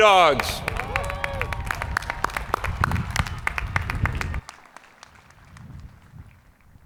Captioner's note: people cheering; hands clapping